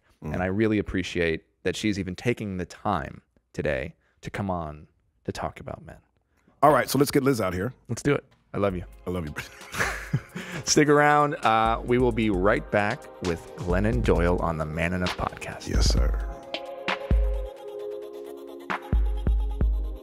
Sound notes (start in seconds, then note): 9.3 both laugh; 16.9 gentle music